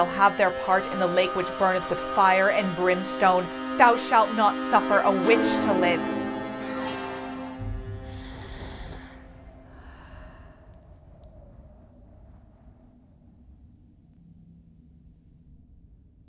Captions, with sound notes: shall have their part in the lake which burneth with fire and brimstone.” “Thou shalt not suffer a Witch to live.” [Wind, eerie breath]